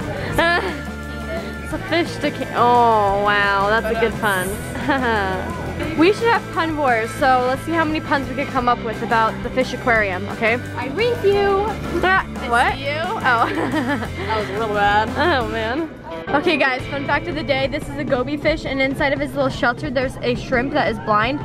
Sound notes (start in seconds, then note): 0.0 laughing; 13.3 laughs